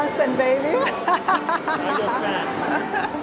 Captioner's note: laughs